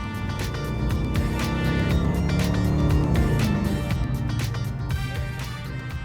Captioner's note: car engine rumbling; upbeat music